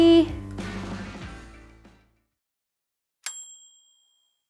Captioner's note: finger ding